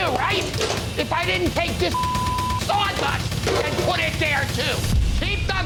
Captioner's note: beep